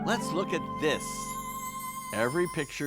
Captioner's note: bells twinkle